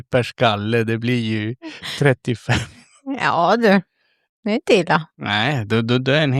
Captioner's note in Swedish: skratt